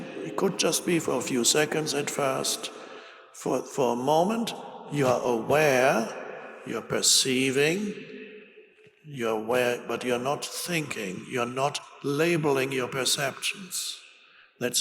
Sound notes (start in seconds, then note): none